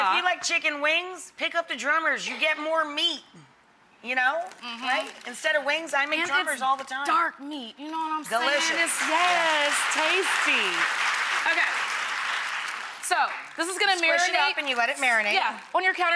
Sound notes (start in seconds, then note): 8.4 audience applauds